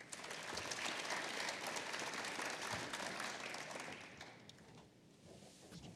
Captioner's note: applause